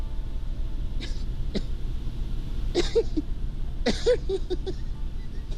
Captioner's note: Lenny coughs and laughs